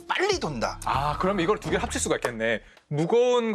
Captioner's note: clap